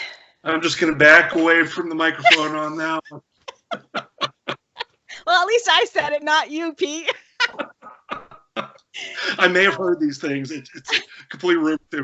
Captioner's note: laughter